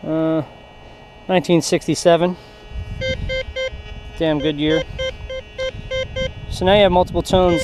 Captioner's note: detector beeps